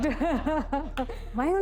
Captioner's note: laughing